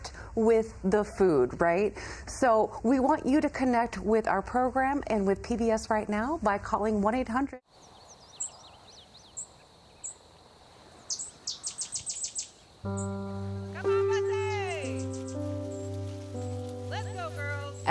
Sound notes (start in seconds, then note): 7.9 birds chirping